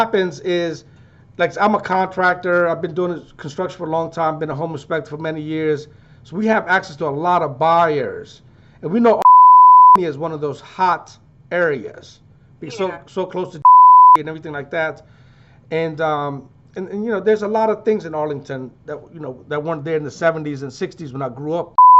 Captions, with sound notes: But what happens is, like I'm a contractor. I've been doing construction for a long time, been a home inspector for many years. So we have access to a lot of buyers, and we know (beep) is one of those hot areas, because it's so close to (beep), and everything like that. And there's a lot of things in Arlington that weren't there in the '70s and '60s